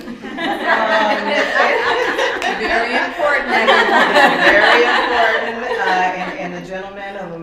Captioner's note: laughter